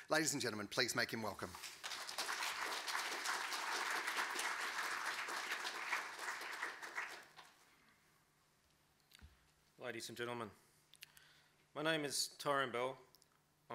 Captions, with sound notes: Ladies and gentlemen, please make him welcome. (clapping) (clapping) - Ladies and gentlemen. My name is Tyronne Bell.